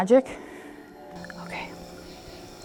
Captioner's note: whispers